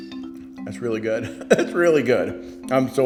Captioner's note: laughs